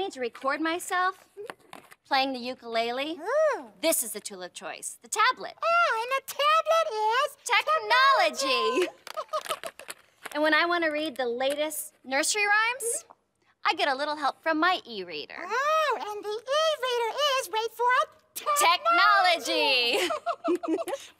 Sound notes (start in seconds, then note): 8.7 chuckles; 19.9 both chuckle